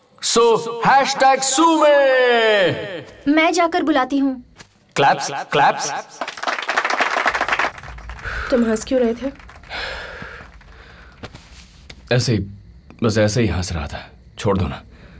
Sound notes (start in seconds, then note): 5.5 applauding; 9.4 sighing